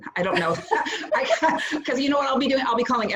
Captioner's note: laughs